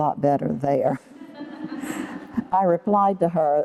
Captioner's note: laughter